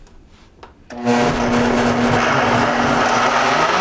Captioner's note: whirring